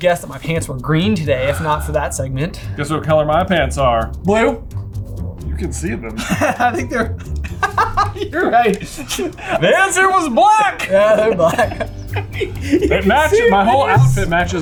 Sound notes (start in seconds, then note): 5.8 laughs